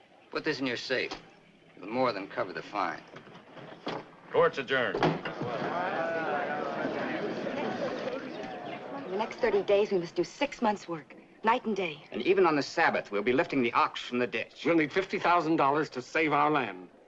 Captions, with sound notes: Put this in your safe. The more than cover the fine. Court's adjourned. [ GAVEL BANGS ] [ PEOPLE MURMURING ] In the next 30 days, we must do six months work. Night and day. And even on the Sabbath will be lifting the ax. We'll need 50,000$ to save our land.